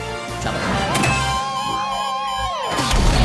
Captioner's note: beeping